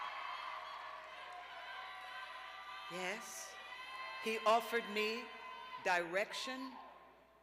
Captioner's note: cheers and applause